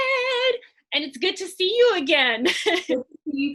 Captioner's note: chuckles